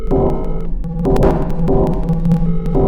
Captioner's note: SFX: warping energy